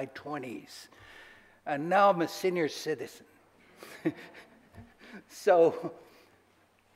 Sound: laughs

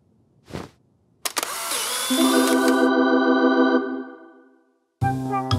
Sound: camera clicking

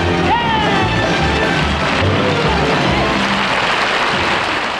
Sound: audience applauding

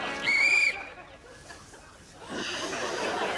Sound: whistles

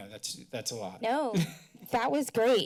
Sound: laughter

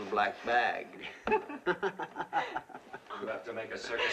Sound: both laughing

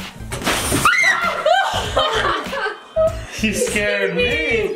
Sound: screams

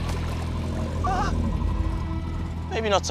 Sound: growling

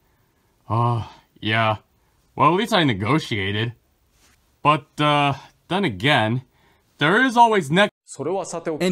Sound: sigh

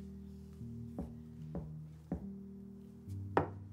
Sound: knocks

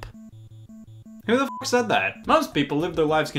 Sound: beep

